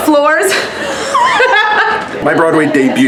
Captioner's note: both laugh